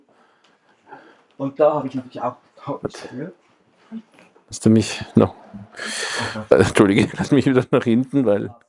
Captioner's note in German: japst